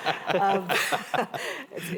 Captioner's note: laughter